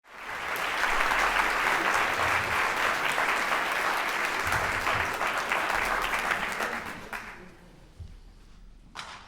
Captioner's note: applause